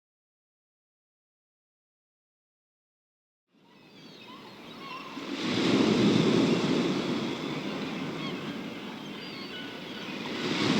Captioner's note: sound of ocean waves and sea birds